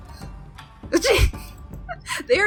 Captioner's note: exasperated DM noise